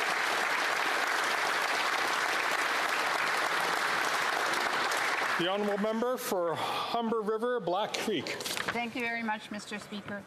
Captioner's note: applause